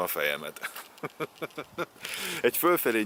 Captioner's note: chukles